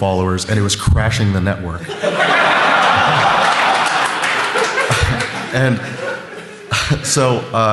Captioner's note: laughter